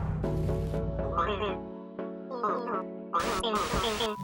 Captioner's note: electronic jittering